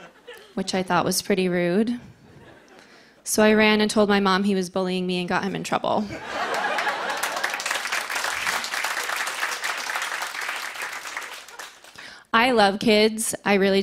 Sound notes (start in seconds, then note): 0.0 laughter; 6.0 laughter; 8.1 applause